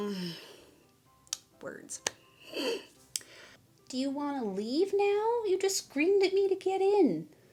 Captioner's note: laughs; groan